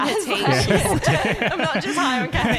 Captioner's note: laughing